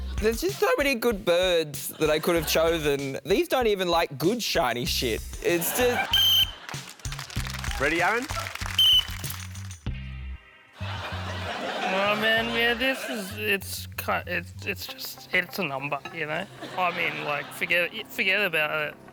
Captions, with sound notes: There's just so many good birds that I could have chosen. These don't even like good shiny shit. It's just... (WHISTLE BLOWS) Ready, Aaron? (WHISTLE BLOWS) Oh, man. This is...it's...it's just it's a number, you know? I mean, like, forget it. Forget about it.